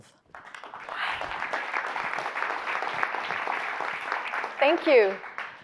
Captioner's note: clapping